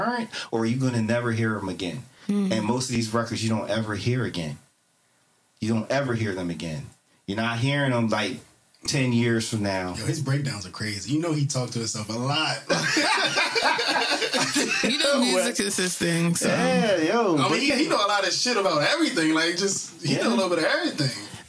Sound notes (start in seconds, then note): 12.7 laughter